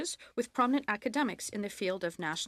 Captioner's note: speaking French